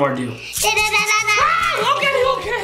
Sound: screams

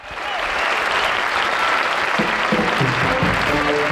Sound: audience applauds

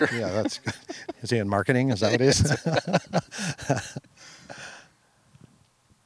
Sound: laughing; laughing

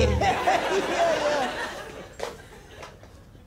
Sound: laughs

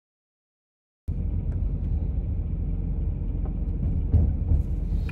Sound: car rumbles

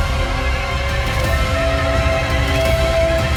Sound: muffled scream

